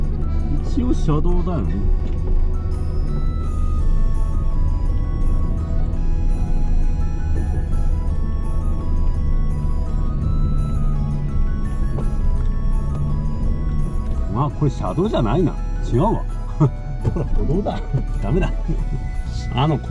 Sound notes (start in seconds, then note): 16.4 laughs